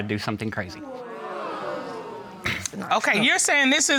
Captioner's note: audience gasps